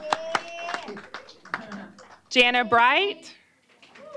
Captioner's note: applause